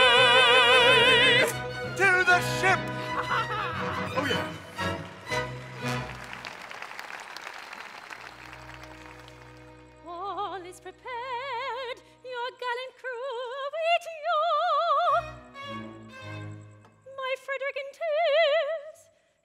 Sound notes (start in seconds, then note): 2.8 laughing; 6.2 audience applauds